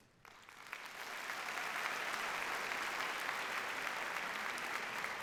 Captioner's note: audience applauds